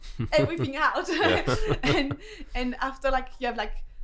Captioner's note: laughs